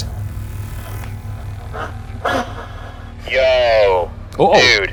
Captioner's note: static buzzes